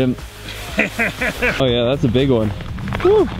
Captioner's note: laughs